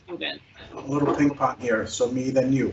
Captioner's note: faintly speaking